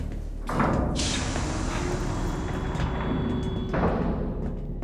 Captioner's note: door opens